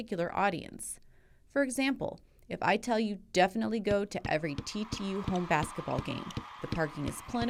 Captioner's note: crowd cheering, basketball dribbling, sneakers squeaking on gym floor